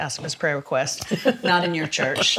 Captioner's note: laughs